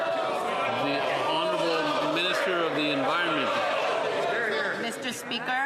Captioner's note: some Applause